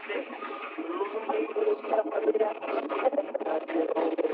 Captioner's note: radio garbling